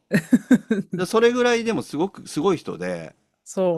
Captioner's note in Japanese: 笑い